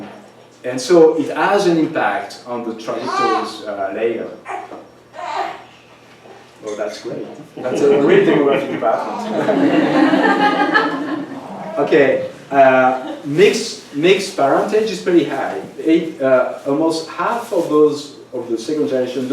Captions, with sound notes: And so it has an impact on the trajectories layer. Well, that's great. That's a great thing about bathrooms. [LAUGHTER] OK. Mixed parentage is pretty high. Almost half of those of the second generation